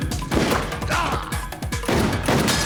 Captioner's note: gasps